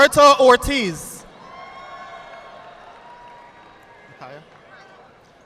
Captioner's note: audience applauding